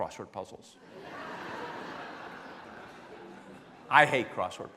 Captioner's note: laughing